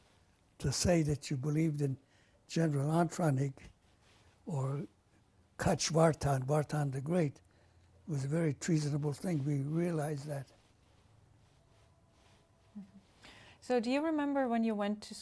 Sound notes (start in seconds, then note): 3.5 non-english